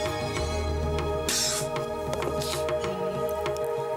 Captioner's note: coughing